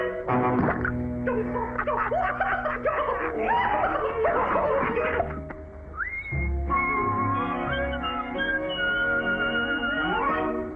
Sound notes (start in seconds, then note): 1.8 both laughing; 5.9 both whistling